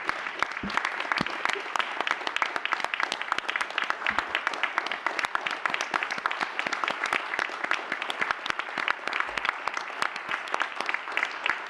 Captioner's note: applause